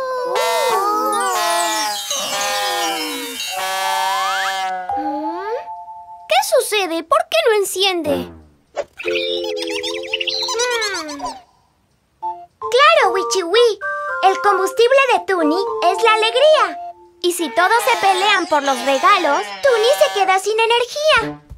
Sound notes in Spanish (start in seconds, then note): 0.1 Sonido de bocina; 8.8 Sonido de pájaro